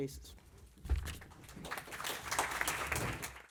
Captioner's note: applause